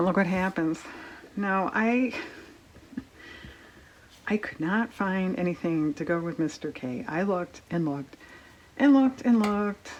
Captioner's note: laughs